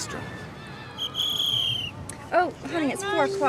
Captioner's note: whistle blows